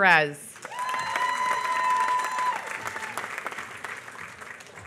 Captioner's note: applause